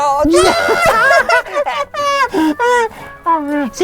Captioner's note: both laugh